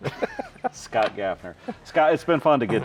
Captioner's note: both laughing